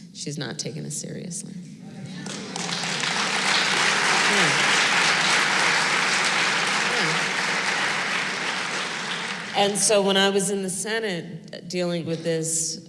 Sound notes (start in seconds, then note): 2.2 applause